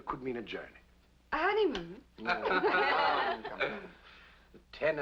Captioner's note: laughter